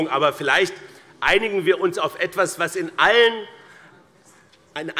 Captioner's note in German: none